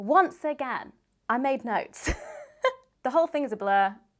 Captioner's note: laughs